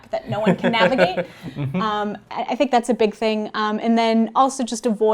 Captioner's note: laugh